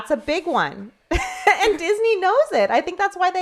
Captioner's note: laughs